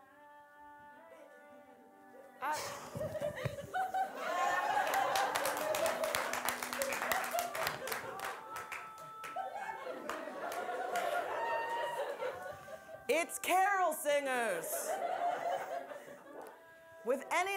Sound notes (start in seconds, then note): 2.7 audience laughing; 4.0 audience applauding; 14.6 audience laughing